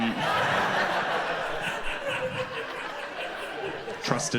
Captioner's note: audience laughs